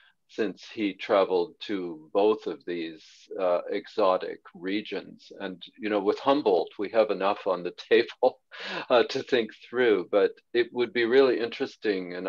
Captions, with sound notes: since he traveled to both of these exotic regions. With Humboldt, we have enough on the table [chuckles] to think through, but it would be really interesting.